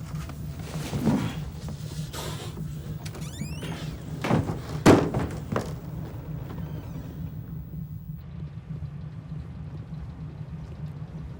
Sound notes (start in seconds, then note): 2.2 door creaking; 2.2 panting; 4.1 door rattling; 8.4 insects chirping